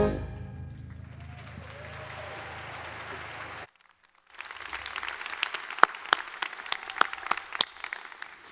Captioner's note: applause